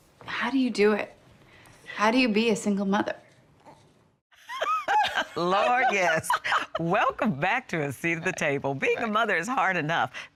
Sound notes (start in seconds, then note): 4.4 laughing